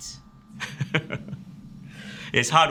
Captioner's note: laughs